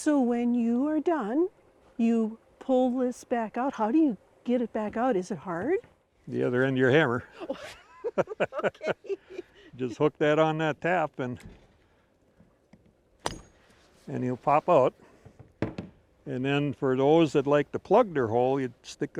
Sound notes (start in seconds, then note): 7.3 laughing; 11.2 wood thudding